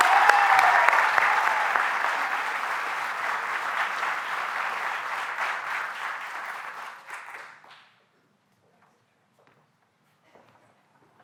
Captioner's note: applause